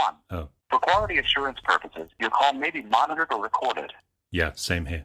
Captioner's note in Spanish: voz grabada